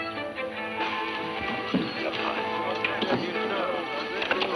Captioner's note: people chattering